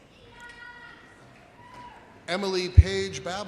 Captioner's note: woman shouting